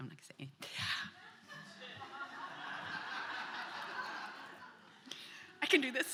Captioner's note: laughter